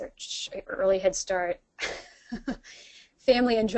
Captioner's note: laughs